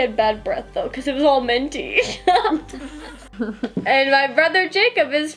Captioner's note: laughs